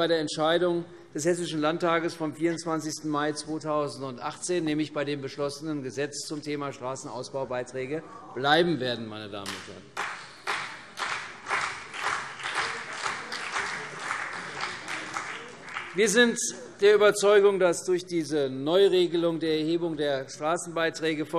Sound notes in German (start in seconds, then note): 9.9 Beifall CDU und BÜNDNIS 90/DIE GRÜNEN